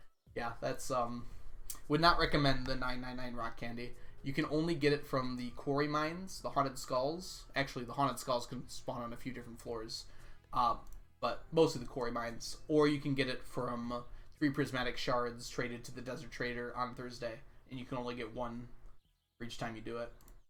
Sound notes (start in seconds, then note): none